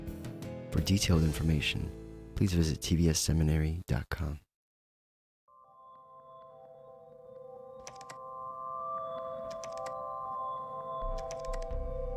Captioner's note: instrumental music plays; keyboard clacking sound